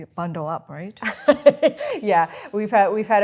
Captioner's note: laughs